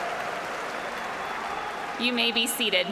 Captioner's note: cheers and applause